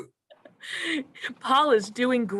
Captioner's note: chuckles